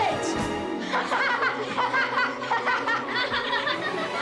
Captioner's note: boys laughing